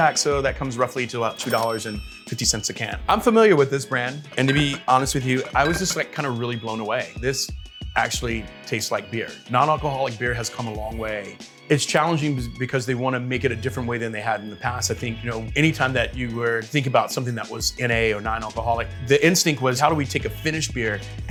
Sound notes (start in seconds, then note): 1.3 register bell rings; 4.2 bottles clanging